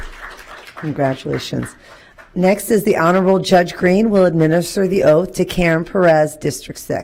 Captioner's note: applause